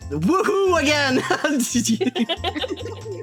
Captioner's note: laughing; all Laughing